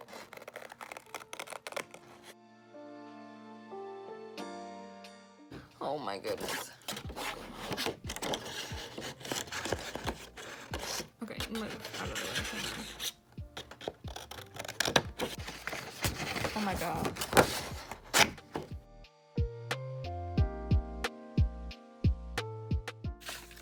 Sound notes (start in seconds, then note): 5.4 strained; 9.8 scraping noises; 18.5 paper cutting